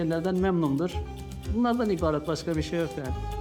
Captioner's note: speaking Turkish